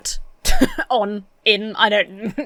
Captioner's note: laughs